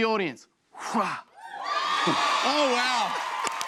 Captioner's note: cheers and applause